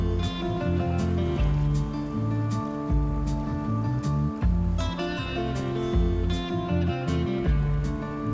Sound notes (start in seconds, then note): 0.0 oars splashing; 1.8 gentle wind; 6.6 river flowing